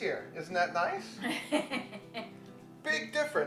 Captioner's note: woman laughs